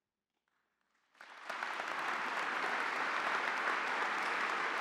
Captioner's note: audience applauding